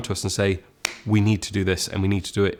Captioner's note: claps